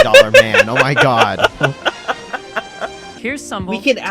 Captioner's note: laughs